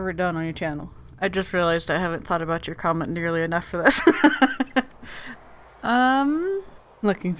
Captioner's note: laughs